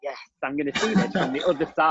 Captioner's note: laughing